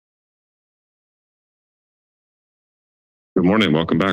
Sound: silence

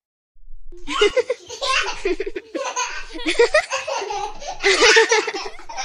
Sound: laughing

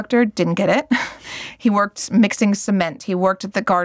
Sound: chuckles

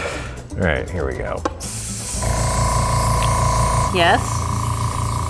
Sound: air blowing

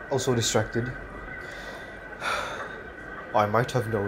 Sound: The Fat Controller sighs

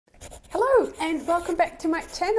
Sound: pencil scratching

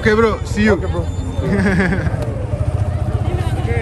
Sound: Peter Griffin laugh

